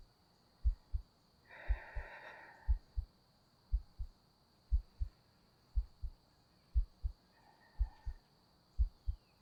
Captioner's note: soft breathing